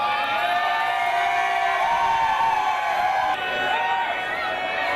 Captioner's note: people Cheering